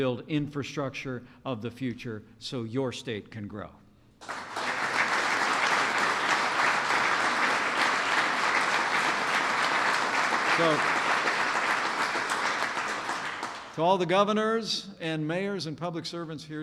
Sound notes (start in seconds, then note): 4.2 applause